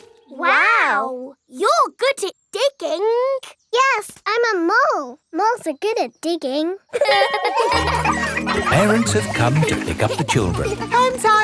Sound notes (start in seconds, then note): 6.9 laughing